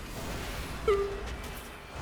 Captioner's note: whimpering